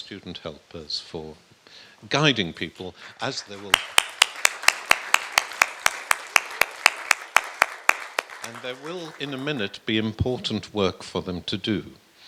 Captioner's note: clapping